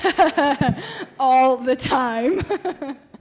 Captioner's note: laughing